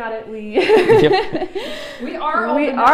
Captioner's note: laughs